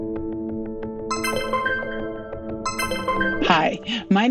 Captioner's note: lighthearted music; computer chimes